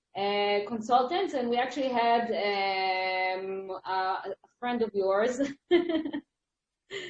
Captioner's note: chuckles